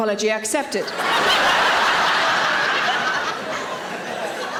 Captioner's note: audience laughing